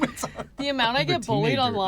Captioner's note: laughs